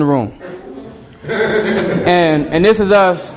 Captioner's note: student laughing